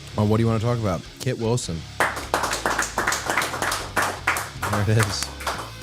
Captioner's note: hands clapping